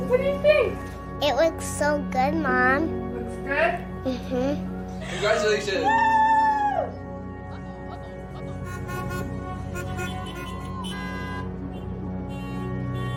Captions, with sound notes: What do you think? It looks so good, Mom. Looks good? Mmhmm. Congratulations Wooo! [car horns honking]